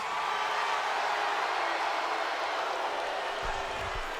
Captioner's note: audience cheering